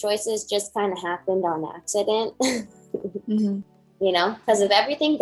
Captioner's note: chuckles